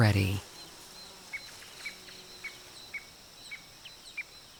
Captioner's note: birds chirping